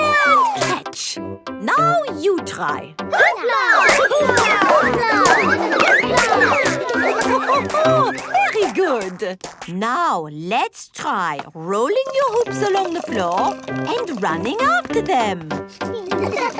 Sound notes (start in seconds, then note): 3.2 all laugh; 16.0 all laugh